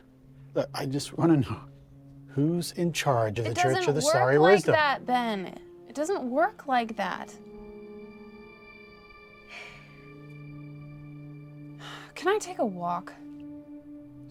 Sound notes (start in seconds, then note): 7.4 music intensifies; 9.5 sighs